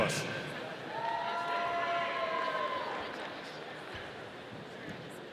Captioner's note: audience cheering